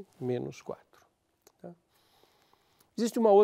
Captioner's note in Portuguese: pausa sonora